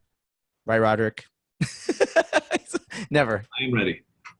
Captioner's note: laughs